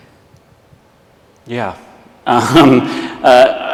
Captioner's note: laughs